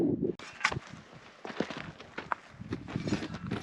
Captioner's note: footsteps